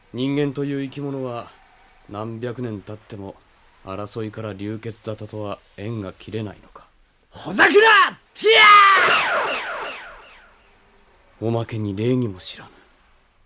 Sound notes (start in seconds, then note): 8.9 SFX: magic